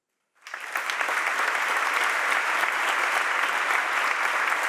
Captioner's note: audience applauding